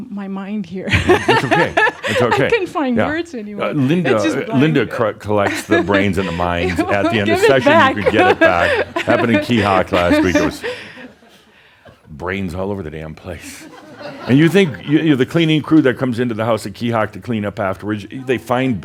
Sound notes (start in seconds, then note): 0.9 chuckling; 10.0 she continues chuckling; 13.4 some chuckles